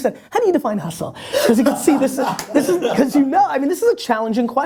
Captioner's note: laughter